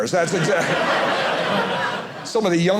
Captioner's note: audience laughing